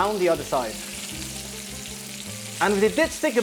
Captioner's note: sizzling sound